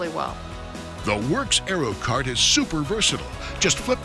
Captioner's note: voiceover